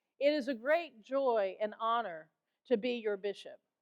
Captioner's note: none